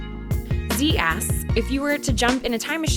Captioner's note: voiceover